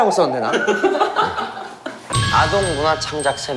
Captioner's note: hahahahahahaha